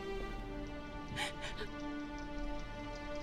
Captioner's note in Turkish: Ağlama sesi